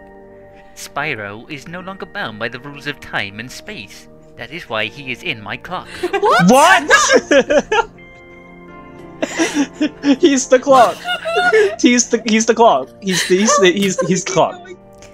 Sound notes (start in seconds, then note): 5.9 laughter